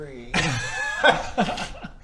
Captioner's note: delinquent laughter